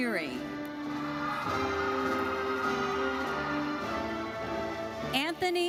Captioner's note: audience cheering and applauding